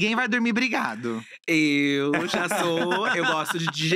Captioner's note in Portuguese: risos